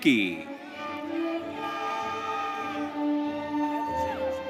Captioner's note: audience cheering